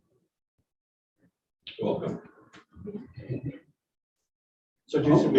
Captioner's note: chuckles